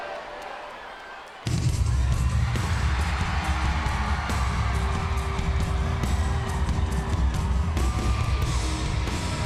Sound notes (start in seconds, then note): 2.0 upbeat music; 3.2 audience cheering and clapping